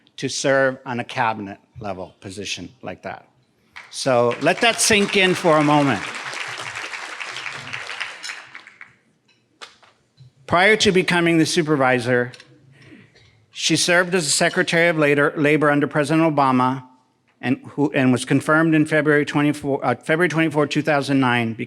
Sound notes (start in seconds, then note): 6.6 audience applauding